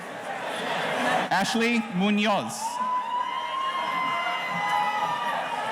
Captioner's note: audience cheering